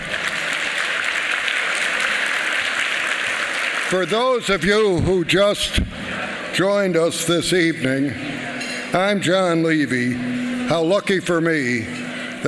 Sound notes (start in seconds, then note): 1.7 applause